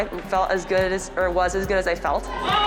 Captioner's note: team cheers